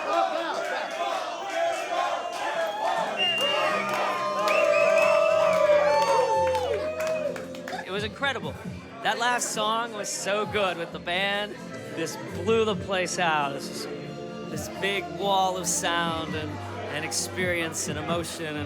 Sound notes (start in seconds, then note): 0.2 crowd; 4.1 cheering